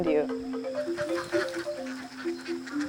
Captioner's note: sound of ducks quacking